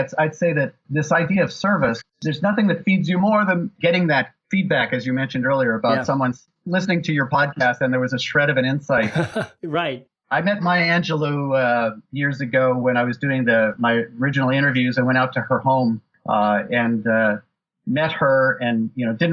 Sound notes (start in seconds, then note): 9.0 laughs